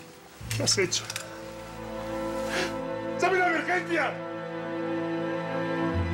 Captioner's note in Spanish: Sollozo